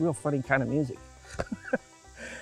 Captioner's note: laughs